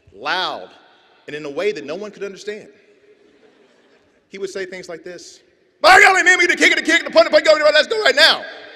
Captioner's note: yells gibberish